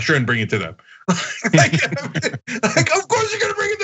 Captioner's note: laugh